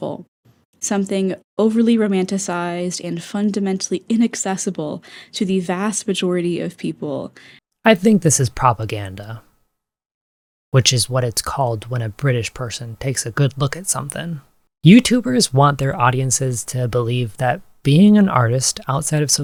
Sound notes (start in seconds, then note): 5.1 inhale